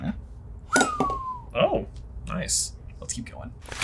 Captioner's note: whistles